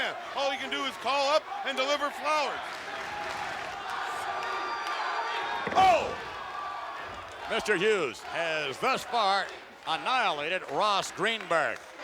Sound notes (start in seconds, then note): 2.7 applause; 10.4 applause